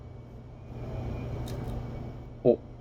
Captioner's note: small crunch